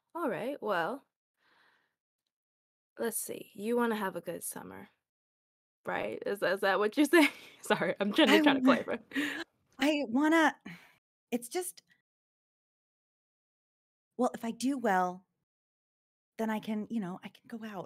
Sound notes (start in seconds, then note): 7.6 laughs